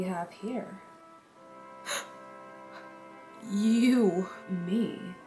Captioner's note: gasp